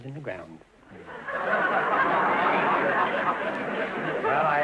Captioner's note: audience laughter